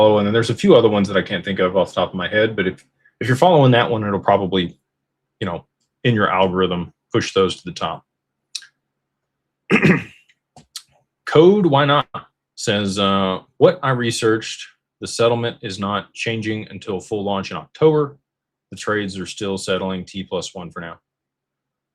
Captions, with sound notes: And then there's a few other ones that I can't think of off the top of my head, but if if you're following that one, it'll probably, you know, in your algorithm push those to the top [cough] [clears throat] code, why not? Says, what I researched the settlement is not changing until full launch in October. The trades are still settling T+1 for now.